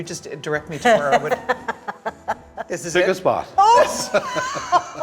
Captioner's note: laughing